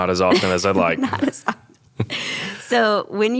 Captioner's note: laughing